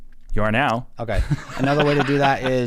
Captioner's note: laughing